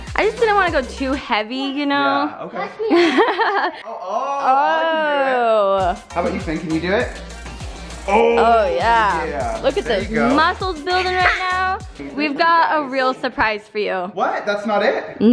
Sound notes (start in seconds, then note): 2.9 laughs